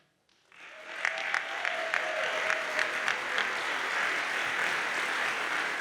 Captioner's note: audience cheers and applauds